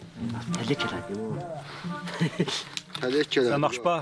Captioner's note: foreign spoken audio